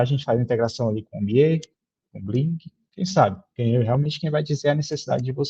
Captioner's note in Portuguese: estalando dedos